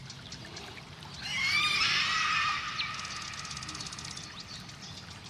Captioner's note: creature shrieking